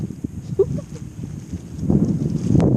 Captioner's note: laughing